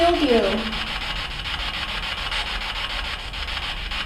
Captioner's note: static buzzing